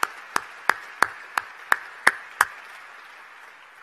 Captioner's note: applause